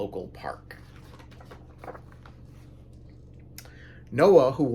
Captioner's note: page turns